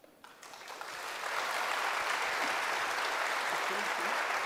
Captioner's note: audience applauds